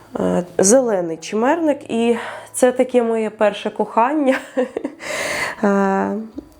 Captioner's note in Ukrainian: сміх